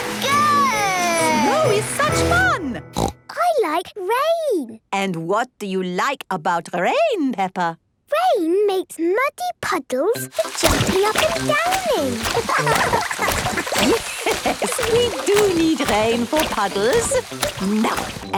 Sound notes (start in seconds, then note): 2.9 snorting; 11.8 laughing; 12.4 Madame Gazelle laughing